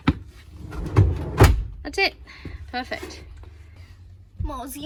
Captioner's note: rollers rumble quietly and drawer slams